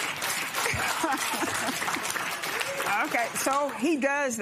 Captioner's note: applause; laughs